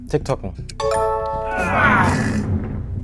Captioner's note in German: Anerkennende Laute